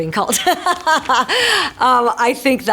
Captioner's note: Marisol laughing